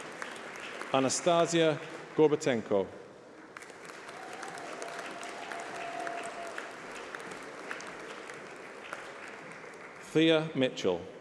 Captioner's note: applause